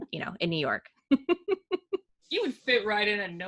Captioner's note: laughing